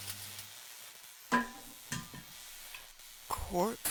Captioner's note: metal falling to floor